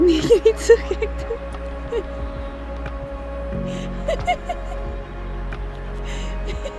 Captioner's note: laughing